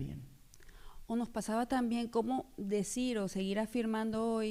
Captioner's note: speaking spanish